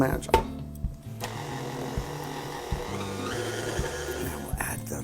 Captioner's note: mixer whirring